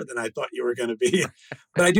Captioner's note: laughing; laughs